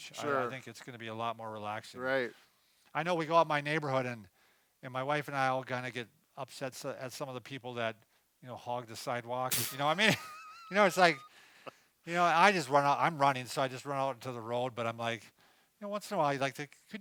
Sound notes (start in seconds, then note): 9.6 both laughing